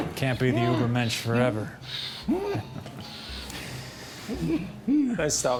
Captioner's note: groaning